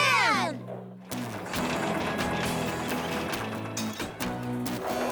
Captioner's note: engines Running